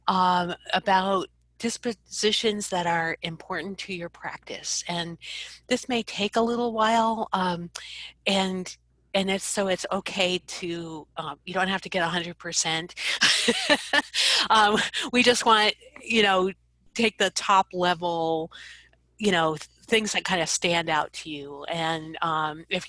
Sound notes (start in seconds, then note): 13.2 laughs